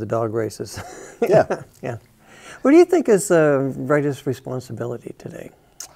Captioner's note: both chuckle